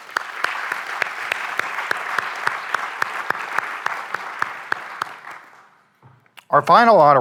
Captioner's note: applause